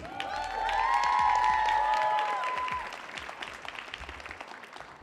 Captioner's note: audience applauding